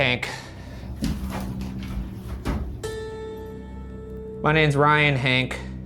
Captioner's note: object thumping